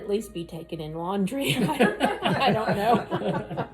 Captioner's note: laughs